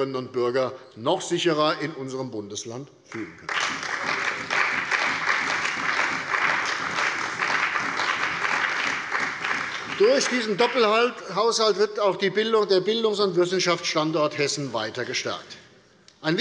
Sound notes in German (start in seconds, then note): 3.2 Beifall bei der CDU und dem BÜNDNIS 90/DIE GRÜNEN